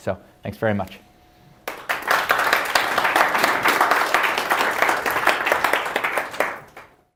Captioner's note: applause